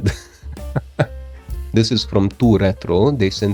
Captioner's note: laughs